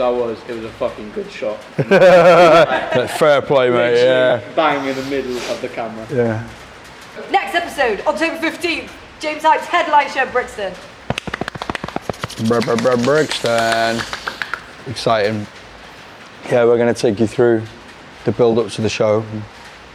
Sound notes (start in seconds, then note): 1.7 laughing; 11.0 clapping